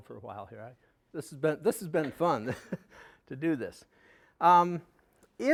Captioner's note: laughing